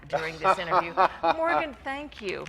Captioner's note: laughing